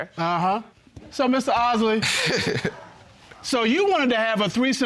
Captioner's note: laughs